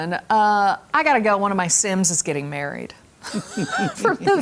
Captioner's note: laughter